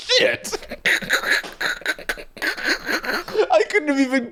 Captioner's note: laughing